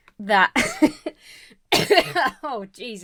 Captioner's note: laughs; coughs